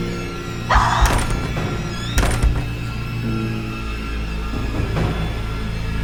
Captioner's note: Jen screams; doors slam